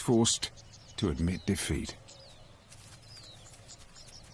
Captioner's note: birds chirping